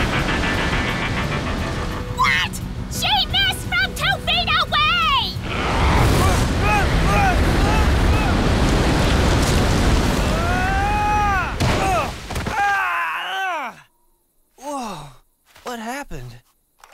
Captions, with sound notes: What? She missed from two feet away! [SCREAMING] Whoa! What happened?